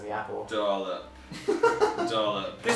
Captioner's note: laughs